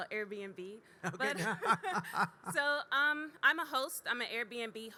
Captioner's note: laughing